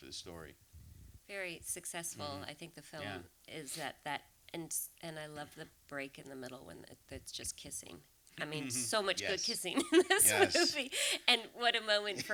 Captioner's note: laughter